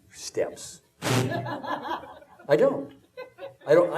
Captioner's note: audience laughing